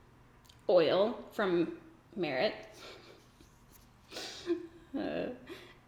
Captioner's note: giggles